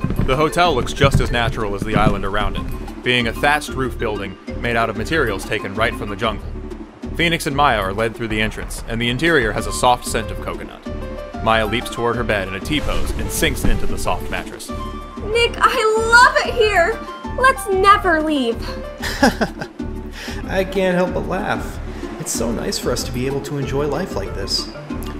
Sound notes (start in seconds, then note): 11.0 sheets ruffling and mattress compressing; 19.0 laughs